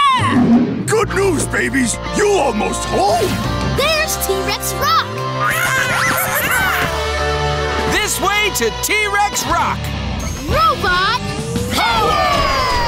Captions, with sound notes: Good news, babies. You almost home. There's T-Rex Rock! [squeaking] This way to T-Rex Rock! Robot... power!